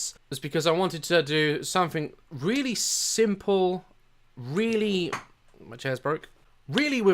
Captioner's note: chair piece falls in the background